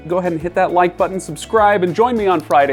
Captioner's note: mouse clicks